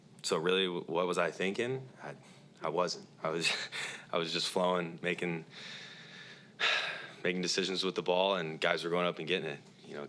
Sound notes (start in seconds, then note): 6.6 sighs